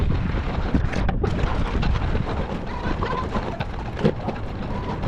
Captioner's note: wind blowing